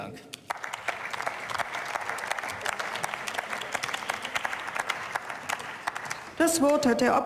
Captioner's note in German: Beifall